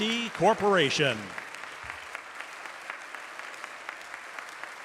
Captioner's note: applause